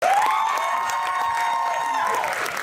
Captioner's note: audience applause